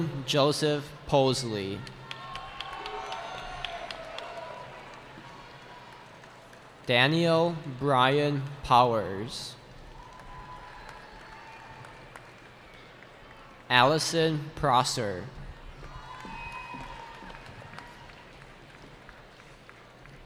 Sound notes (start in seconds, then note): 1.6 cheering; 9.8 cheering; 15.5 cheering